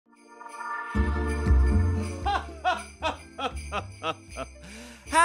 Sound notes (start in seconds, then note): 0.1 sleigh bells jingle; 2.1 chuckles